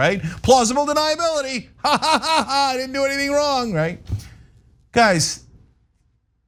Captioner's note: laugh